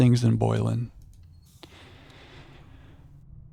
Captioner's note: sighs